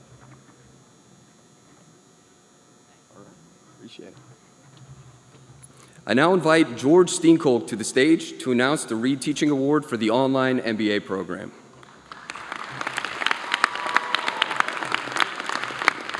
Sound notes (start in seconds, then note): 2.9 applause